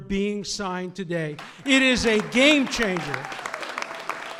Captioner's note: applause